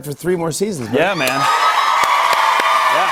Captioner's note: cheers and applause